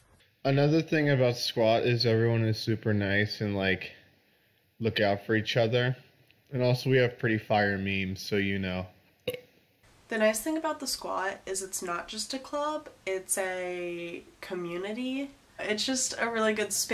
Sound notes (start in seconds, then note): 9.2 burp